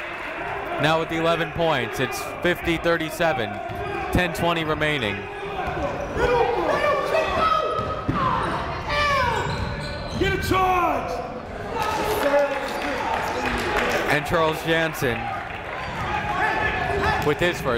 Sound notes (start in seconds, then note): 5.5 shouting; 11.8 clapping